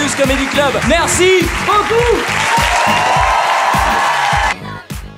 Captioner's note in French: Acclamation + Applaudissements